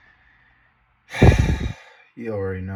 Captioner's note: sighs